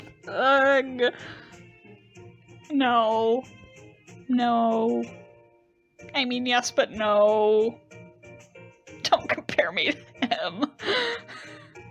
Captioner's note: fake sobbing